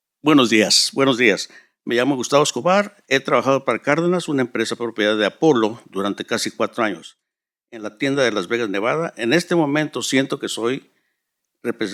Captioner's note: speaking in Spanish